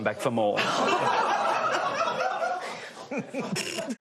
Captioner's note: laughter